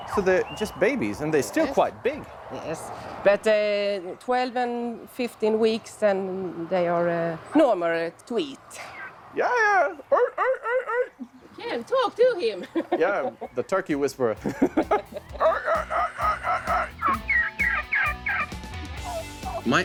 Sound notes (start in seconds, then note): 9.5 makes turkey sounds; 12.4 laughs; 14.4 laughs; 15.3 makes turkey sounds; 17.2 turkey yelping